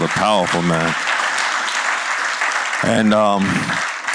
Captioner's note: applause